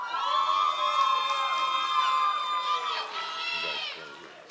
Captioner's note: audience applause